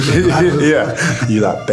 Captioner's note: laughing